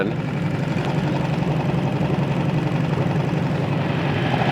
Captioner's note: boat engine roaring